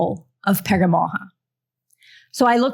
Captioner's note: non-english